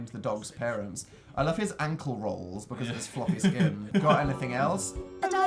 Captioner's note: laughs